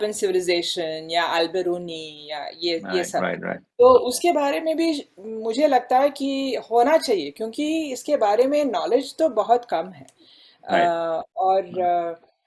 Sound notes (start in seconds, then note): 5.3 discussions